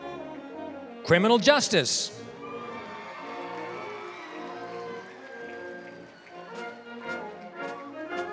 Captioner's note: applause; applause, cheering